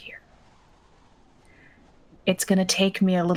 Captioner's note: wind blowing